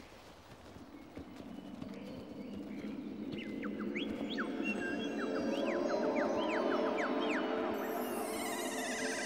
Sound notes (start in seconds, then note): 3.5 birds call